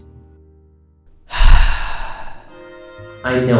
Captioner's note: sigh number seven